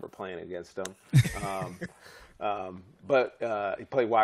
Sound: laughter

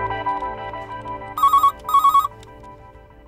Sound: telephone ringing

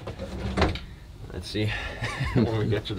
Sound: chuckles

